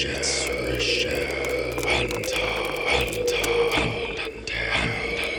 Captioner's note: voices growling; voices whispering